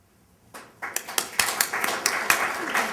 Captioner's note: applause